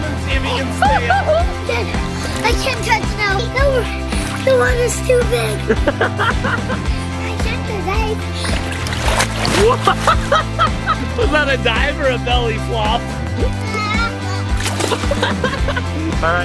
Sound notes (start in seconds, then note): 5.6 laughs; 9.6 laughs; 14.9 laughs